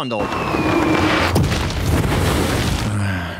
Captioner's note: explosion